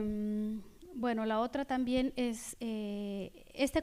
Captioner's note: speaking spanish